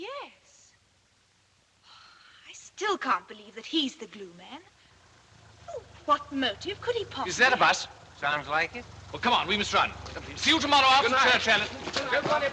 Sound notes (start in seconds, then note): 1.8 sighs; 5.0 vehicle Approaching